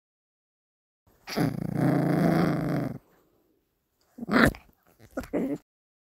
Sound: growling

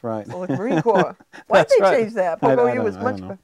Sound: chuckling

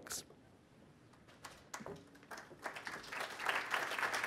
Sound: applause

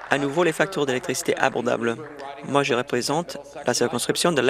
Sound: applause

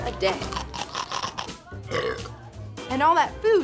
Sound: munching and burp

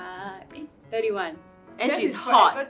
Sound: confident

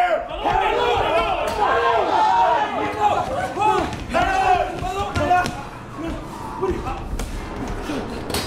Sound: yelling

